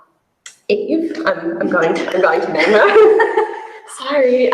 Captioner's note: chuckles